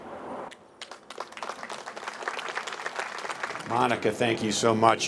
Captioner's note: applause